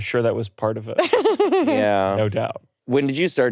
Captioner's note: laughing